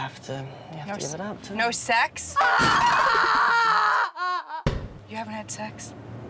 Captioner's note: screaming